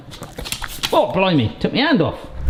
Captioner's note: nails tap